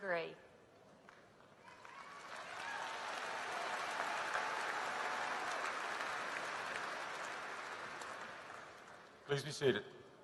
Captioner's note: applause